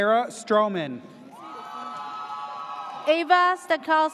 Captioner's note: audience cheers